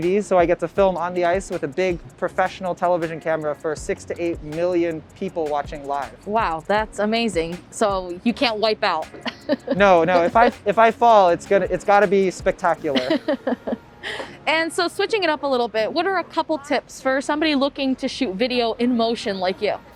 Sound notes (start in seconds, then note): 9.1 laughs; 12.8 laughs